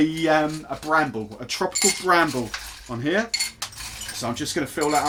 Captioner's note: ice clinking